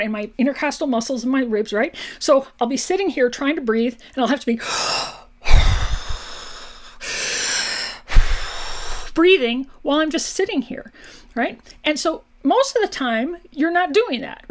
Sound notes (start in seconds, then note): 5.4 takes deep breaths in and out